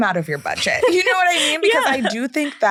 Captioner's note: laughs